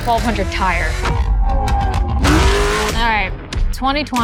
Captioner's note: engine roars